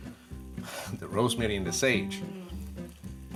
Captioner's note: sighs